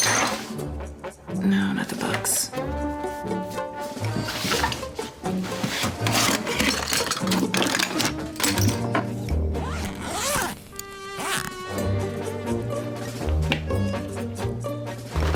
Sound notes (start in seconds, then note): 0.0 quirky music; 2.9 quirky music; 9.6 unzipping suitcase; 12.0 quirky music